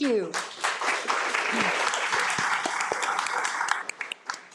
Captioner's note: audience applauding